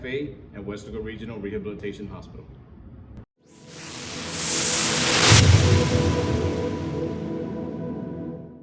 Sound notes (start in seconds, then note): 3.6 wooshing